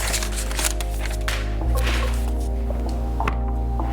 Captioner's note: paper rustles